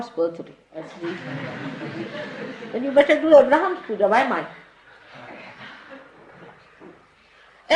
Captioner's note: laughter